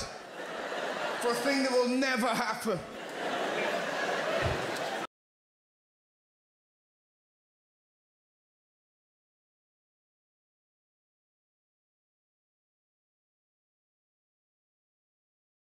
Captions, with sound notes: for a thing that will never happen. (crowd laughter)